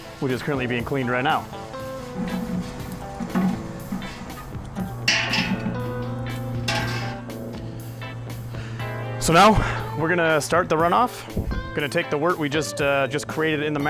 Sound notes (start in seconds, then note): 2.2 instrumental guitar music; 2.2 water spraying in kettle